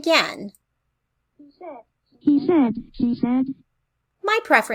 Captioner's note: computer voice